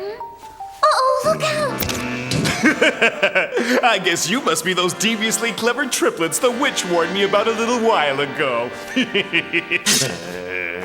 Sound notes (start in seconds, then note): 1.4 cackles; 8.5 cackles